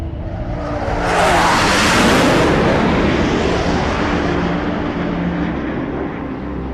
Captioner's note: F-15s roaring; slow somber music continues